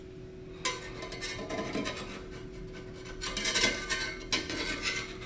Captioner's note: spatula scraping